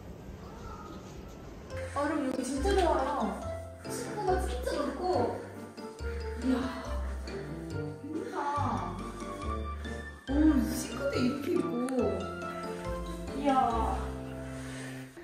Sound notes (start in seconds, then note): 5.8 the sound of breath